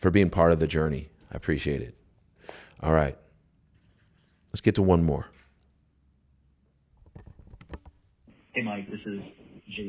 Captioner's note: voicemail playback